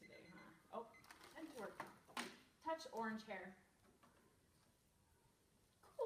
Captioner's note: timer beeps